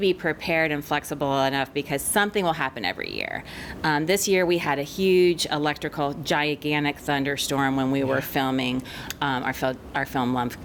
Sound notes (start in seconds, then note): none